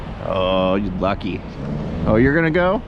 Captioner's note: none